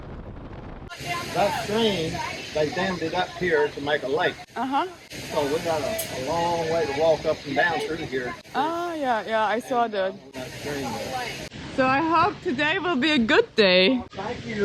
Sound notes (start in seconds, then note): 1.0 background chatter; 7.9 background chatter